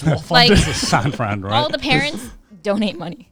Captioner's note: all laughing